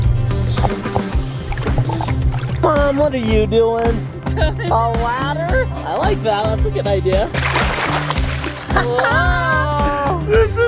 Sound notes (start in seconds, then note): 4.2 laughs